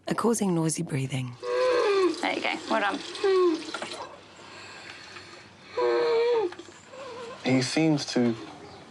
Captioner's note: breathes raspily; continues breathing raspily